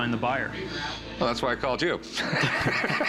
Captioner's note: laughs